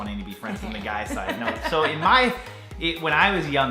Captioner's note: laughter